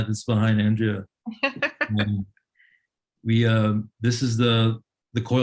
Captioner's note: laughs